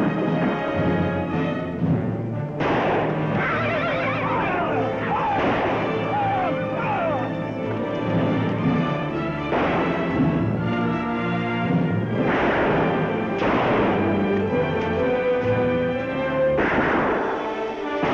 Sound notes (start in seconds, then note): 2.6 gun shot; 9.4 gun shots